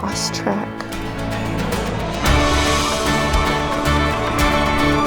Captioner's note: crowd chattering